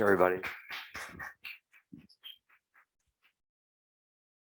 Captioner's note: audience applauds